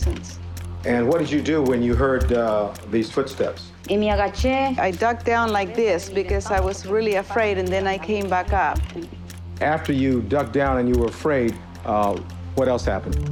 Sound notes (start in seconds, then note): 3.5 speaking Spanish